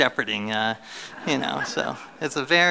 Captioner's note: laughter